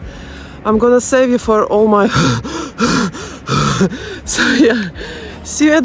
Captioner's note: panting and gasps